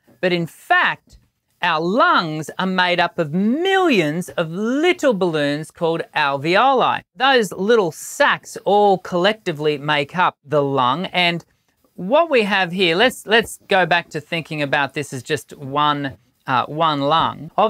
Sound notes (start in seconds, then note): none